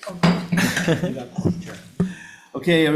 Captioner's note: laughing